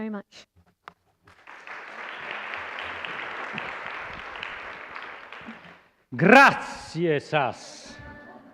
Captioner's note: applause